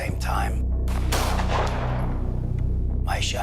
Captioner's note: gunshot